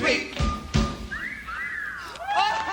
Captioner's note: whistling